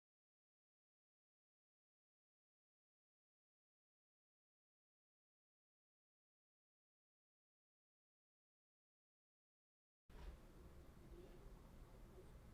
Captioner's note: silence